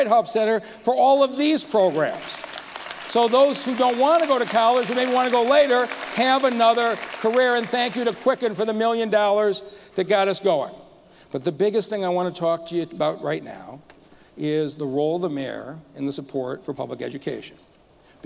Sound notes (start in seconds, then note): 6.0 applause